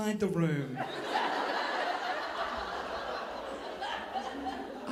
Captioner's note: audience laughing